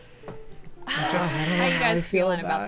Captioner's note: players exhaling